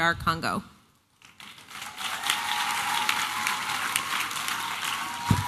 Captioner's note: applause and cheering